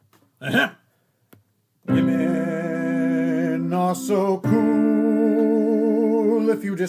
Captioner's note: ahem